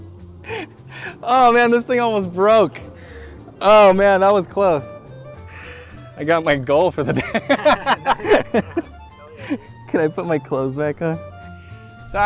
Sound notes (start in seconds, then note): 7.0 laughter